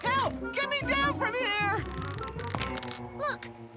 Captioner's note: key jangles